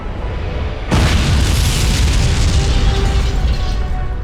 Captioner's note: explosion